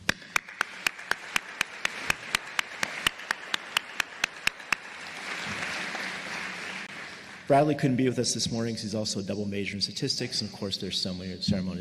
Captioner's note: applause